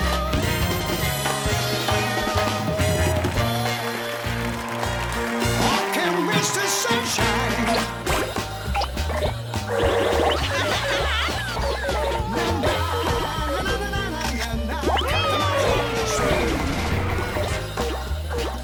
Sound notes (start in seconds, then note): 4.3 applause; 9.2 upbeat song playing; 15.1 cheering